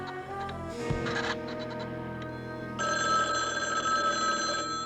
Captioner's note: telephone rings